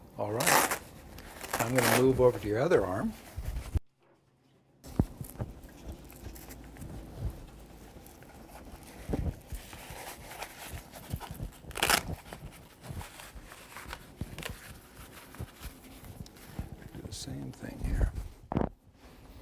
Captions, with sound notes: All right. (cuff fabric releasing) I'm gonna move over to your other arm. Gonna do the same thing here.